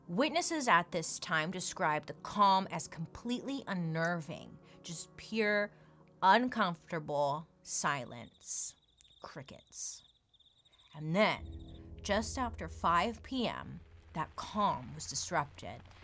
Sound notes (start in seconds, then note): 8.0 crickets chirping